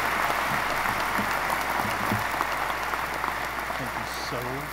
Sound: audience applause

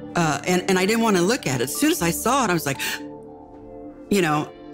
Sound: gasps

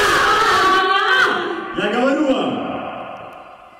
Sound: speaking in Russian

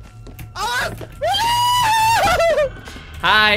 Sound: scream

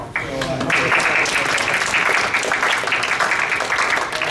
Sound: audience applauding

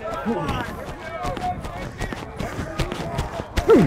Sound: chatter

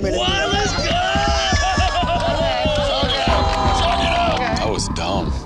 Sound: audience applauding

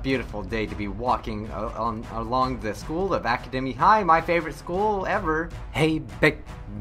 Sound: he sounds awkward

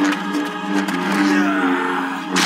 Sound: grunts

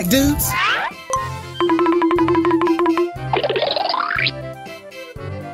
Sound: various cartoon sound effects

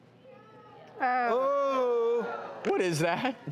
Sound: groaning in disgust

